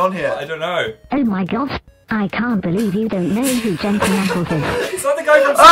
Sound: hysterical laughter

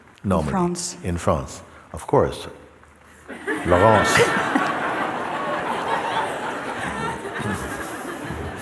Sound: laughter

